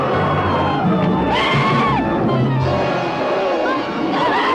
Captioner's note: screaming